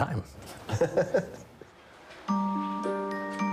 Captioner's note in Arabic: المضيف ويضحك